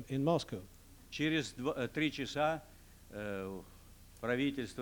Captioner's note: non-english speech